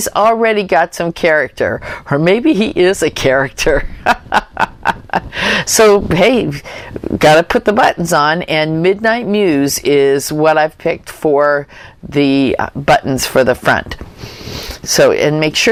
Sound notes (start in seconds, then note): 3.8 laughter